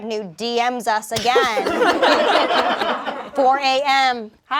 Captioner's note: everyone laughs